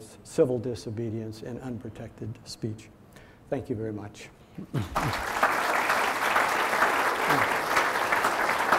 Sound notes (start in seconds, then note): 4.8 audience applauding